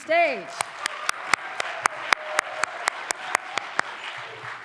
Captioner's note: applause